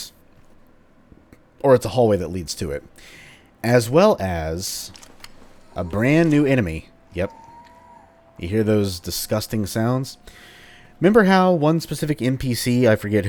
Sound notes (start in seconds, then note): 5.6 ghastly moaning sounds